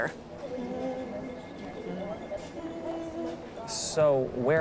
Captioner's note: humming